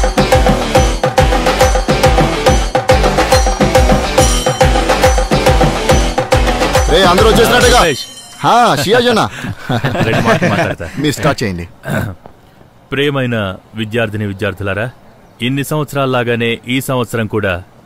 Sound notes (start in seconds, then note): 11.8 clears throat